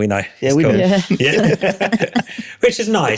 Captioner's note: laughing